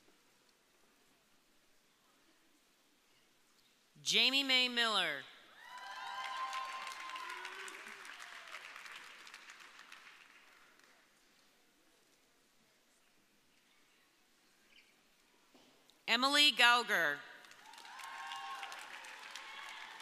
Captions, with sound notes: - Jami Mae Miller. (audience cheering) Emily Gauger. (audience cheering)